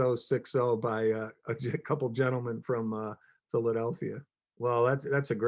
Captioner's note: chuckles